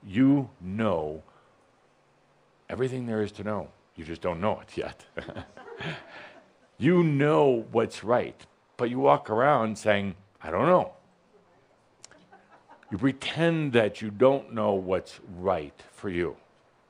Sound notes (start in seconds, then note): 5.0 some chuckles